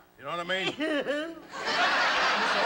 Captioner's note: laughter; sobs